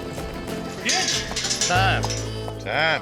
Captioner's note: hoof beats, shouting; gate clanking